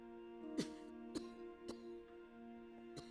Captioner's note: coughing